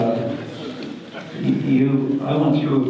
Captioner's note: audience laughter